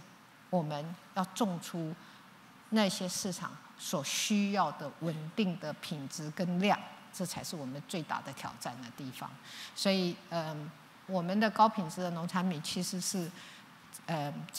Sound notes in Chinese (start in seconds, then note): none